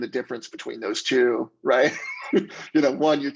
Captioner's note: laughs